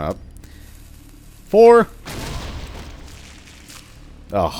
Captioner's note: kaboom